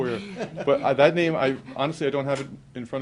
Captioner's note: laughter